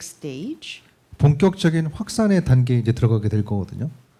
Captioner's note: speaking korean